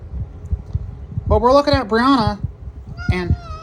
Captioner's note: meowrs; yowls